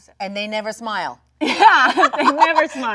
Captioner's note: Jung laughs